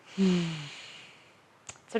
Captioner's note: sighs